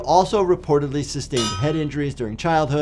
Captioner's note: anvil clangs